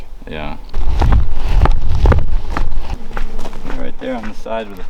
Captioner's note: footsteps thump